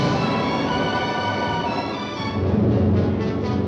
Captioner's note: wind whooshing